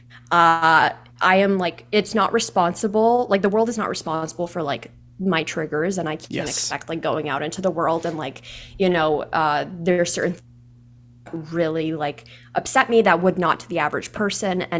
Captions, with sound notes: I am like, it's not responsible. Like the world is not responsible for like my triggers. And I can't expect going out into the world, and there are certain (audio skips) really upset me that would not to the average person.